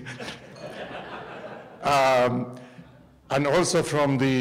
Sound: laughter

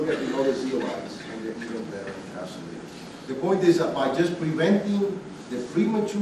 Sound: student coughing

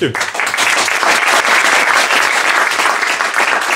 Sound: applause

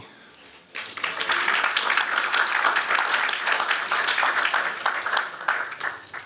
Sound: applause

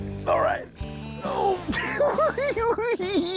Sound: giggles

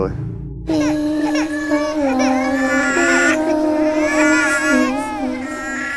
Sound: eerie singing; baby crying

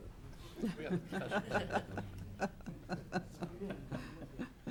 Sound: woman laughing

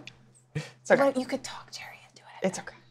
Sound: whispers

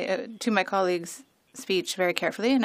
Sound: speaking French

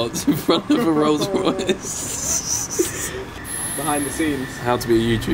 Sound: laughing

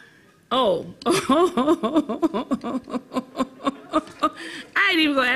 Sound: laughs

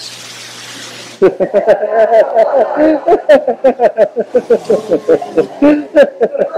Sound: laughter

